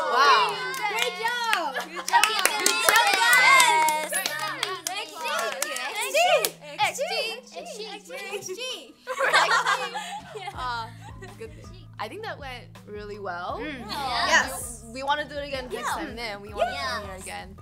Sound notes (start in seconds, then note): 2.9 applauding